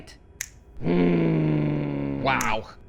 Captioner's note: snaps fingers. Growls